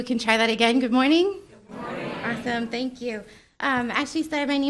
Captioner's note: crowd responding